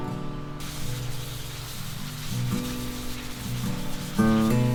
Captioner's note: water spraying